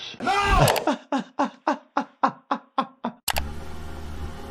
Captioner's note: doctor laughs